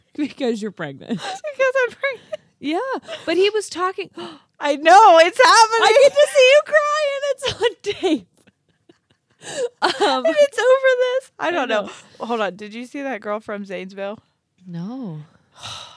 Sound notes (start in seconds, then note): 4.2 gasps; 11.3 laughs